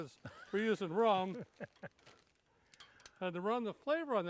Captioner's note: laughs